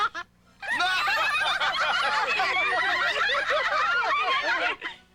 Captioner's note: laughter